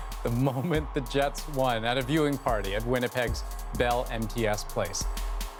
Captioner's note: cheering